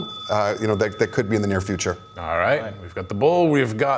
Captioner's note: the ^bell rings¸